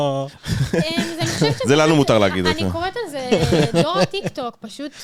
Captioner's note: laugh